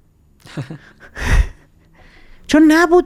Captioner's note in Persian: خنده